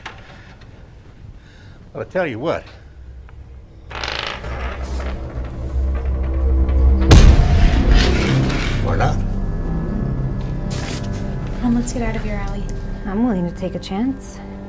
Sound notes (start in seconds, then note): 7.0 hand slams